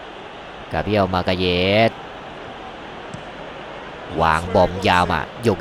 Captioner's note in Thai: ปรบมือ